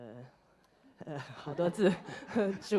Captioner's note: audience laughter